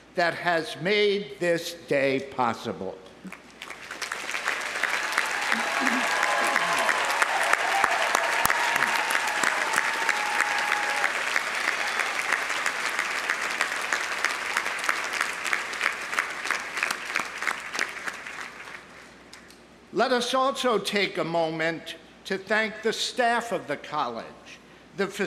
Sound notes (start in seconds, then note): 3.5 audience applauding; 3.5 audience cheering